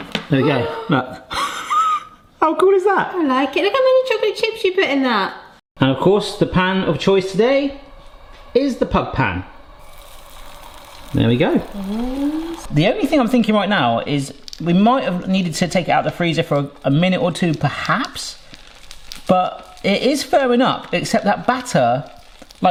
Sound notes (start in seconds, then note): 0.0 mould clatters; 0.4 chuckles; 0.4 gasps; 10.0 frozen pancake sizzles